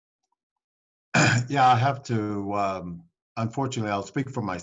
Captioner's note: clears throat